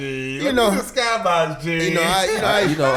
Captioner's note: laughs